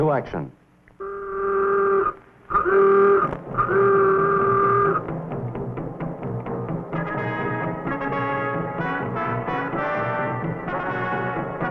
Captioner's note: horn buzzing